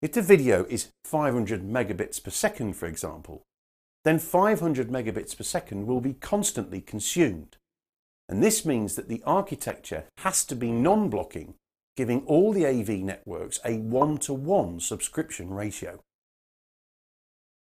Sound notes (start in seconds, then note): none